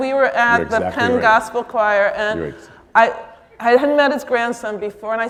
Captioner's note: audience clapping